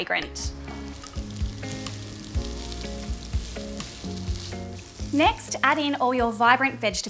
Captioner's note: ham sizzles in pan